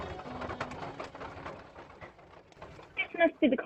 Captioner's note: footsteps on dirt